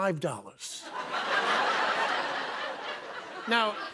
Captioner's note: laughter